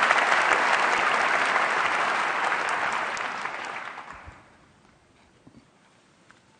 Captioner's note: applause